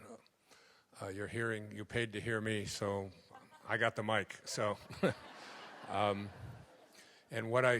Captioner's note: laugh